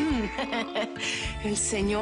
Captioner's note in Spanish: Risas